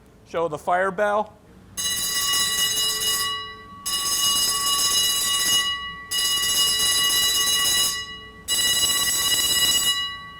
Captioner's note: bell ringing